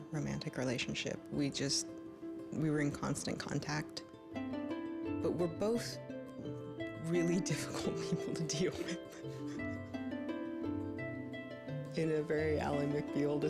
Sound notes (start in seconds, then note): 7.2 laughs